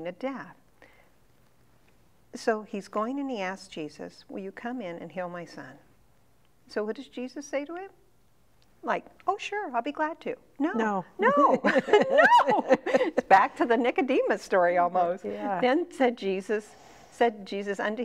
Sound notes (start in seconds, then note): 11.2 laughing